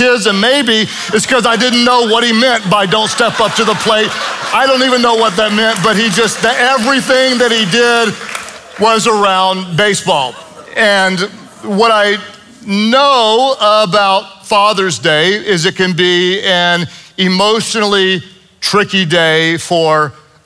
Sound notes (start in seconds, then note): 4.3 congregation laughs and applauds